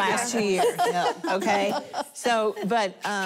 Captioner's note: laughter